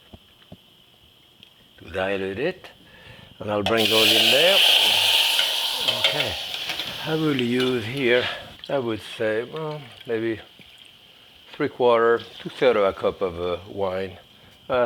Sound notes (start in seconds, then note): 4.5 cherries sizzling